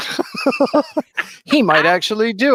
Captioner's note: laughing